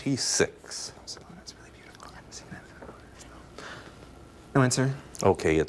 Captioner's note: team whispering